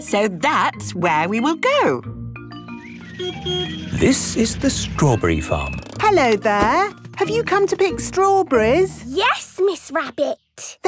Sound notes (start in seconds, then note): 2.5 beeps